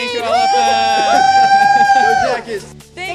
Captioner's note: cheers